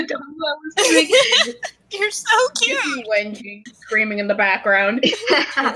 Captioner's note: giggling